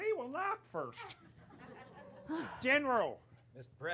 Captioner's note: laughter